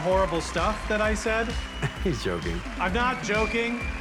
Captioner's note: chuckles